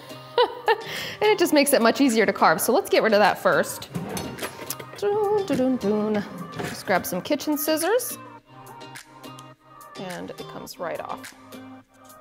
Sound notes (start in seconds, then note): 0.1 laughing; 3.7 humming; 11.9 light music